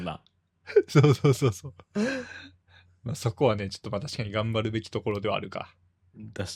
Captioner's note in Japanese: 笑い